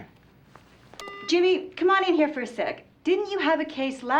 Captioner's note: beeps